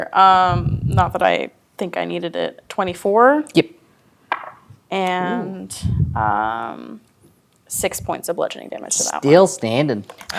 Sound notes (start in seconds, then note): 4.3 dice rolling